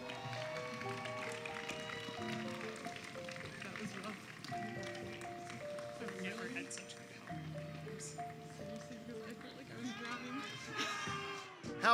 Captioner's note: applause and Cheering